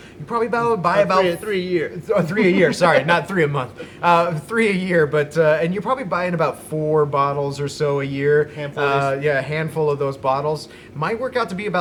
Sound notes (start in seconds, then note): 4.0 laughs